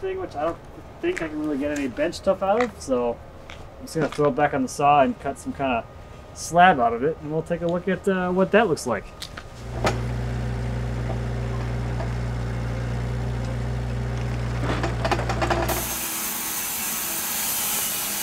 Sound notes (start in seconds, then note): 14.8 engine idling